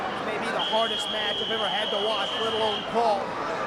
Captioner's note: whistling